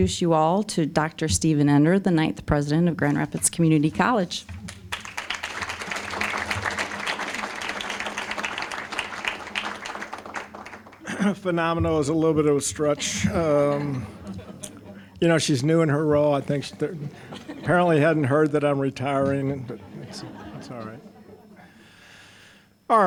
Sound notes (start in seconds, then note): 4.6 applause; 12.1 audience laughing; 21.7 audience laughing